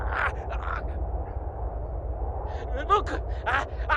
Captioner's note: groan